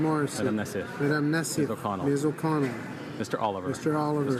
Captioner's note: speaking in french